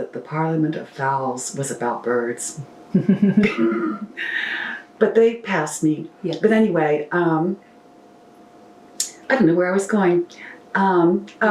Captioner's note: laughter